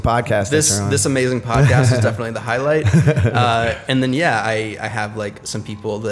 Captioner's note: chuckle